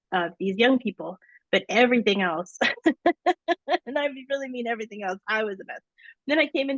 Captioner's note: laughs